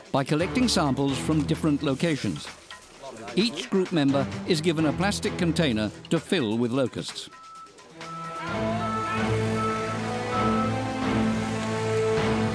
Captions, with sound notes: by collecting samples from different locations. Each group member is given a plastic container to fill with locusts. [car beeping] [suspenseful music]